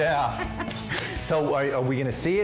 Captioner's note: laughter